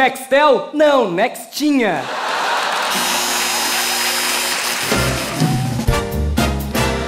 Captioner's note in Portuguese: campainha e aplausos